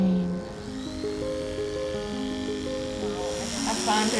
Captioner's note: buzzing from the electric shaver